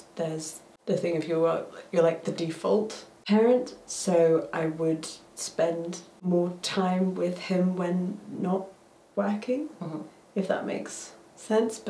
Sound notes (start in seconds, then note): none